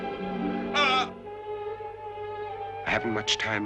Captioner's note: man groans